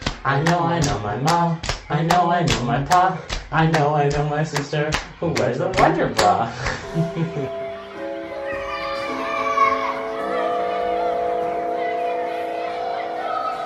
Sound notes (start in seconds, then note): 6.6 children laughing; 6.9 church bell ringing